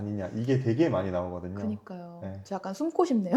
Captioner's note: laughs